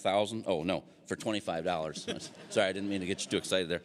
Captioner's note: audience laughing